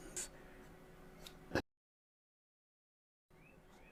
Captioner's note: silence